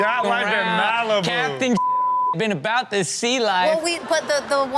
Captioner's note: beep